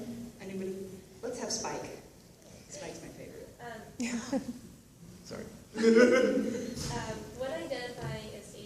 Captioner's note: laughter